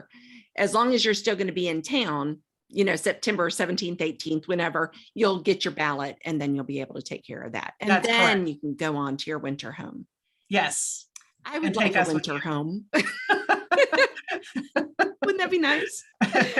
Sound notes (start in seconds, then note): 12.9 both laugh; 16.3 laughing